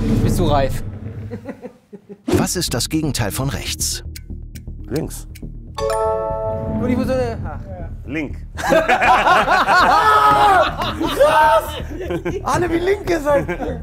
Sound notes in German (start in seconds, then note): 6.0 murmelt